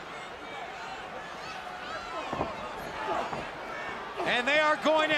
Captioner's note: crowd chatter